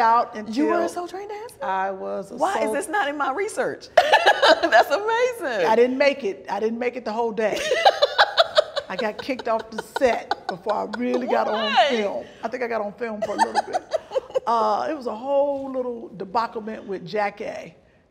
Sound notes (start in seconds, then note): 4.0 laughs; 7.6 laughs loudly